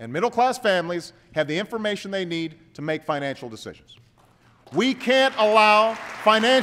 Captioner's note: applause